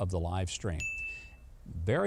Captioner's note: bell chimes